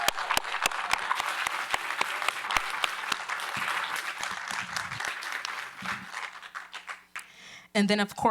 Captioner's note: applause